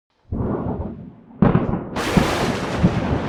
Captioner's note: thunder